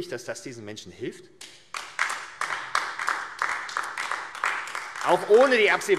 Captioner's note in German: Beifall AfD